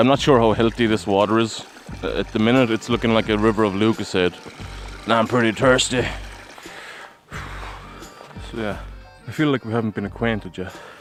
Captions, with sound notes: Yeah I'm not sure how healthy this water is. At the minute it's looking like a river of Lucozade. And I'm pretty thirsty! *exhales sexily* So yeah. I feel like we haven't been acquainted yet.